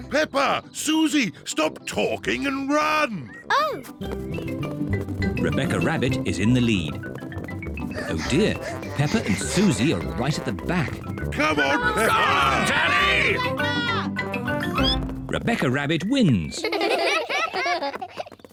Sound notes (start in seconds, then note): 7.6 both panting; 11.4 all shout encouragement; 14.4 squeaks; 16.6 all laugh